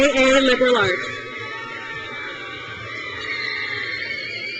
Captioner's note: crowd cheers